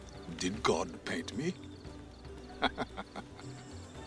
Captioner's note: chuckles